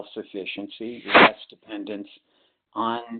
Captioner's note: sliding static